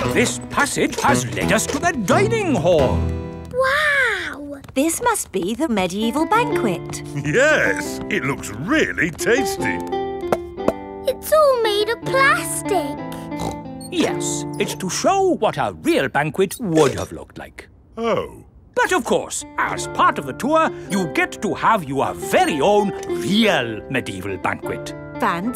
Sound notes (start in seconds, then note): 9.9 hollow taps; 13.1 snorts